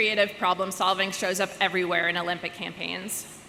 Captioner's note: none